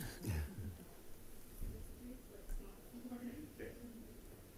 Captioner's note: attendees chuckle